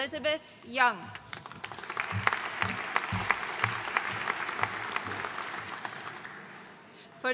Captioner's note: audience applauding